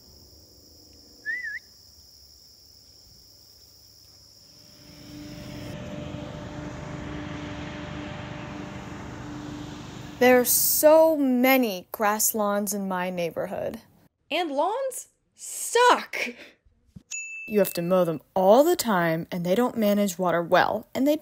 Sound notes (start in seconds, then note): 0.0 insects humming; 4.5 increasing sound of a motor running; 4.6 loud motor running